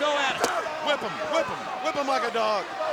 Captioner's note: crowd cheering